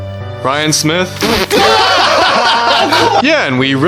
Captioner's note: whole class laughs